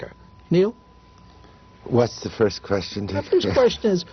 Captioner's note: laughter